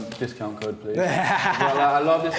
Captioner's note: laughs